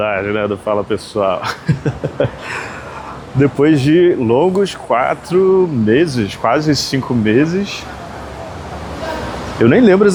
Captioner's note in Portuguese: risadas